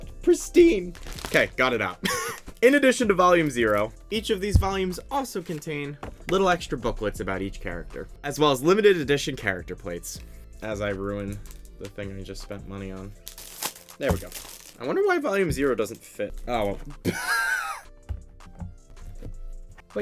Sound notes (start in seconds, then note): 17.1 laughs